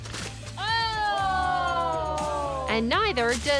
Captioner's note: all exclaiming